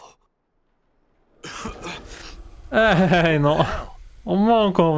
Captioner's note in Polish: kaszel